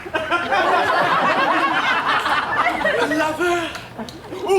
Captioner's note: audience laughs